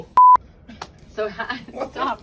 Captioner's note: laughs; beeps